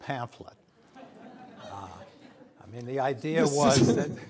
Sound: audience laughter

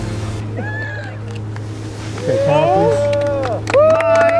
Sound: all applauding and cheering

